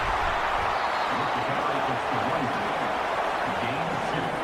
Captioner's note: crowd Noises